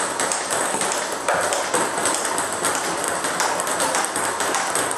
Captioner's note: ball ping pong hitting continues